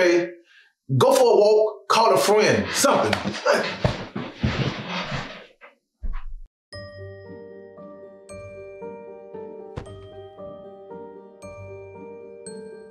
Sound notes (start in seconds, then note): 2.8 bed rustling; 7.1 mysterious music